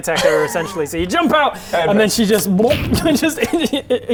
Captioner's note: blub